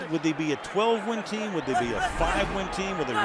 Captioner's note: whistles